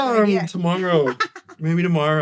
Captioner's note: laughs